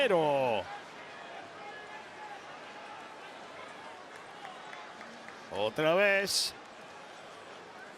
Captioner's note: applause